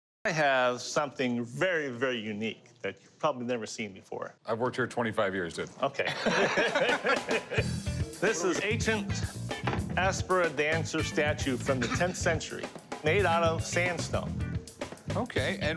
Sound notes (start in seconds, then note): 6.0 laughter